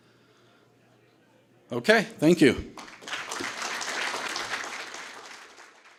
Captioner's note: audience applause